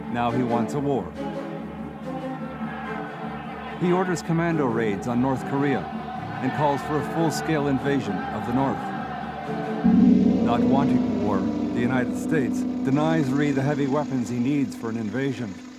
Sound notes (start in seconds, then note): 2.2 people shouting; 9.6 dramatic music